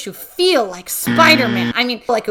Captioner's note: loud incorrect buzzer